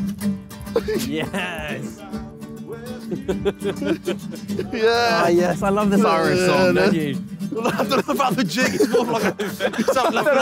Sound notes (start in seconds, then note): 2.8 chuckling; 10.2 indistinct chattering; 10.2 laughing